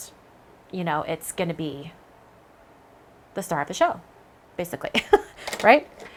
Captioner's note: laughs